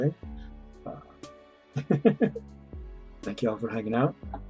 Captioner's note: chuckles